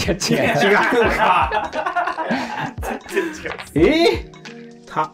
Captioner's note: laughing